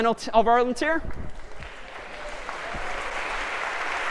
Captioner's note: applause